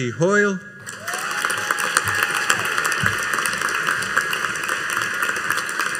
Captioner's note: audience cheering and applauding